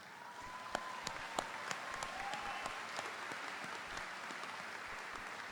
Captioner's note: audience applauding; audience cheering